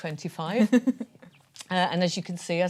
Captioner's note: chuckling